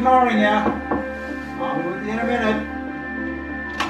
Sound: thumping sound; piano music playing

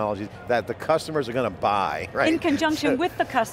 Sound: laughing

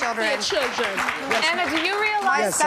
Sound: clapping

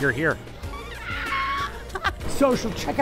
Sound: laughing

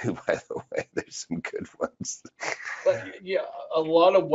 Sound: laughs

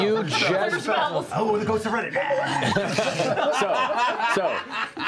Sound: laughing

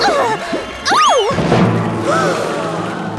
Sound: gasping

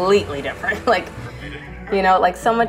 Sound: laughs

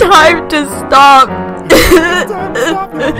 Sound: gross sobbing

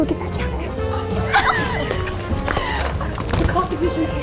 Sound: both laughing

